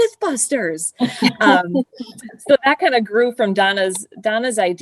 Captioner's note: laughter